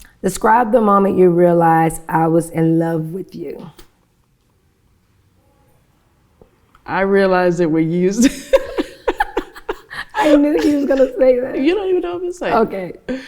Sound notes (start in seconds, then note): 8.2 laughs